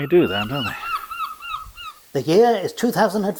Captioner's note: seagull squawks